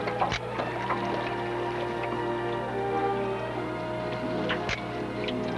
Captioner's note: picture snaps